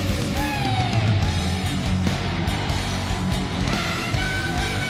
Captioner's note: audience cheering